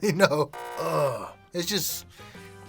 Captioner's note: buzzer sound effect; groans